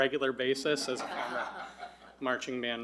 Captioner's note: audience laughing